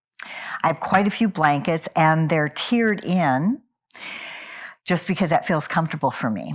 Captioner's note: sighs and gasps